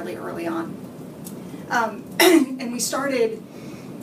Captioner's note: clears throat